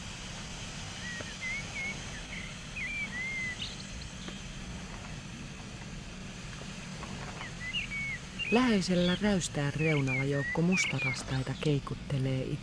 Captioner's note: bird cries